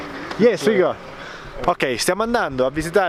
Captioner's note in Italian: Inglese